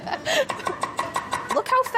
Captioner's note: laughing; thudding